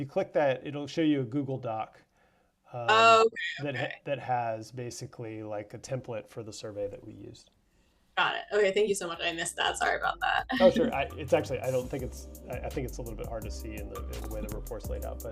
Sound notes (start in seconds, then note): 10.5 laughs